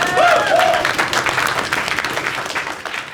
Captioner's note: applause and cheers